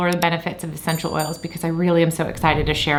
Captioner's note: bell dings